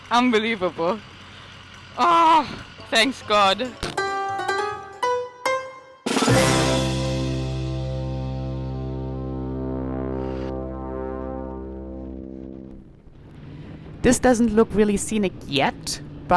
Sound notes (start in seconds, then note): 2.0 screaming; 4.8 playful music